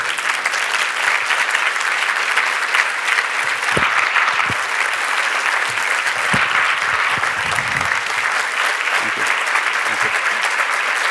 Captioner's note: applause